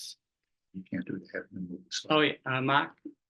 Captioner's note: speaking faintly